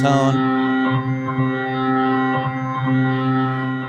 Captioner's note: loud ringing